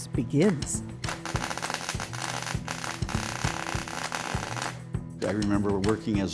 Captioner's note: soldering iron crackling